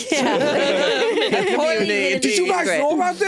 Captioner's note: all laughing